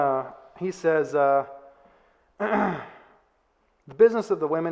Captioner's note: clears throat